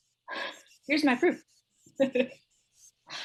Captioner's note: she laughs